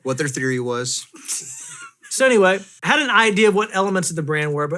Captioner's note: softly chuckling